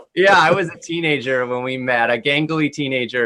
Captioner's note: laughter